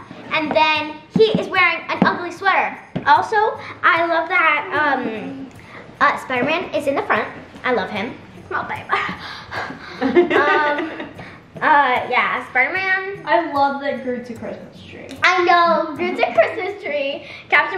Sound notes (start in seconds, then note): 9.1 breathing heavily; 9.5 laughing